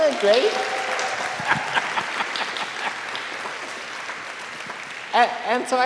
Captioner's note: students applauding; all laughing